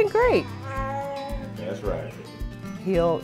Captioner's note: baby noises